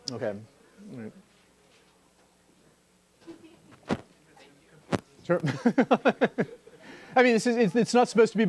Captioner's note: laughter